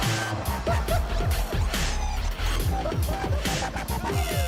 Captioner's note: laughter